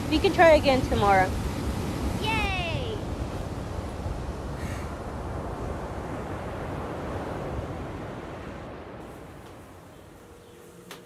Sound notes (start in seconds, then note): 3.6 ocean waves crashing